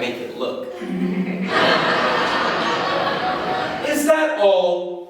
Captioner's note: audience Laughing Track